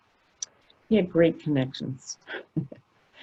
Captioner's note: chuckles